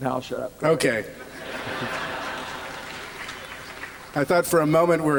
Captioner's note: laughter